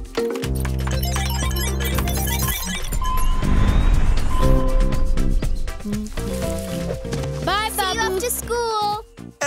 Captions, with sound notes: (beeping) (humming) - Bye, Babu! - See you after school!